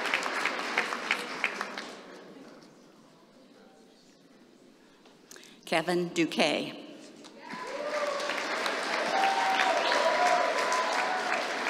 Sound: applause

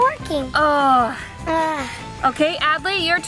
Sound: mom sighing; Adley sighing

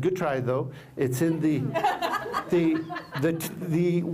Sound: laughter

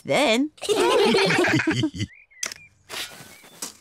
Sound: all laugh

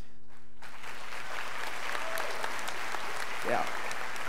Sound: students applauding

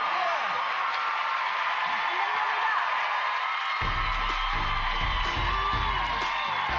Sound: cheers and applause

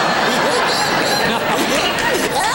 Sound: audience laughing; gigio laughing

